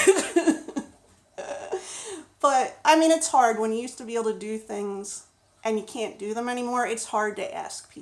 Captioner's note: laughs